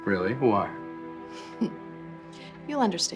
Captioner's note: giggling